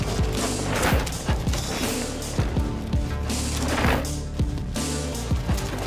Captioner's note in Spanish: llanta de bicicleta crujiendo sobre tierra